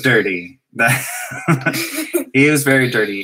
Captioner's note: laugh